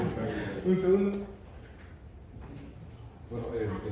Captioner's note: laughter